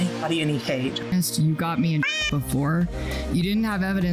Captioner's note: meow